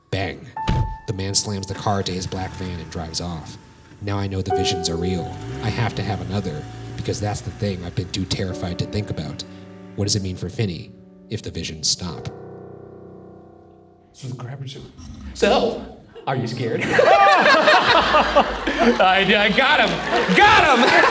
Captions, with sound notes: Bang! The man slams the car to his black van and drives off. Now I know the visions are real. I have to have another because that's the thing I've been too terrified to think about. What does it mean for Finney if the visions stop? - So the Grabber's- - So! Are you scared? (audience laugh) I, I got him! Got him!